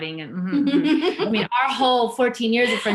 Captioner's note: laughs